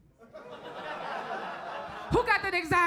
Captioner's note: crowd laughs